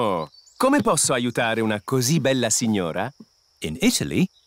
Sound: speaks italian

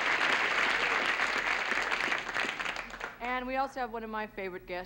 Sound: applause

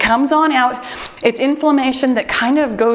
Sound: timer beeps

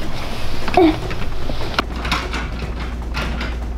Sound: grunts

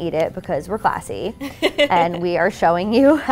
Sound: laughs

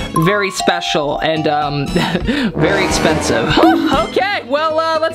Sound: laughs

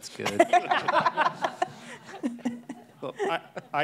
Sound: group laughing

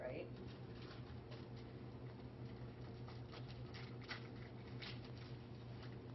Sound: unwrapping

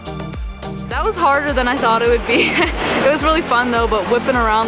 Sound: laughs

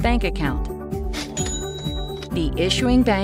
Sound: cash register ringing

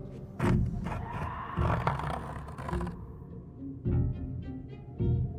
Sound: wood scratches

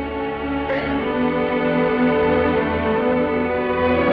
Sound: Esther crying

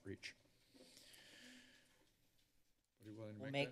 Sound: inhales deeply

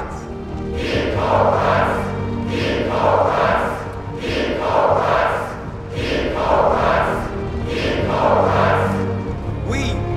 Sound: chanting

